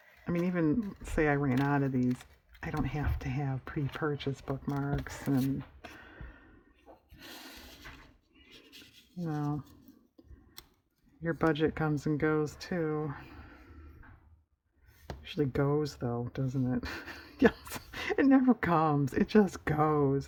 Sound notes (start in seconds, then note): 16.8 laughs